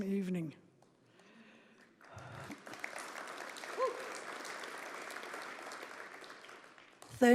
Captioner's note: applause